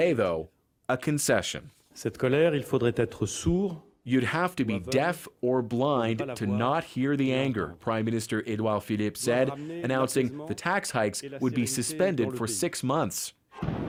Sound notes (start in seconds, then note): 6.8 speaking French